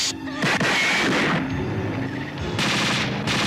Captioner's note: gunshots